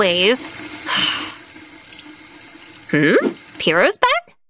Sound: sigh

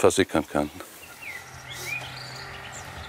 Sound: birdsong

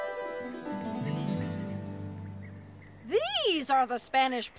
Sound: piano; birds chirping

